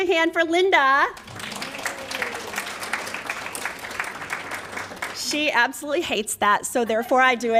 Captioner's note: applause